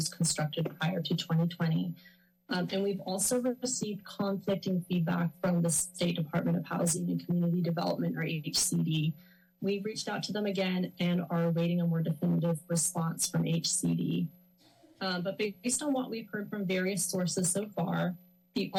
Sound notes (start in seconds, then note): 14.3 pause